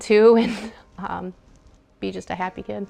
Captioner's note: laughter